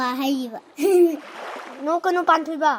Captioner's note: giggle